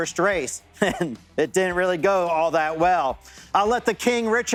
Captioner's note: laughs